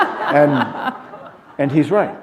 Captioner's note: laughter